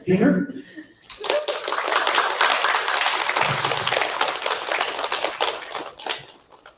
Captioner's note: applause